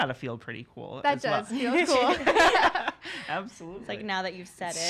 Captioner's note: laughs; laughing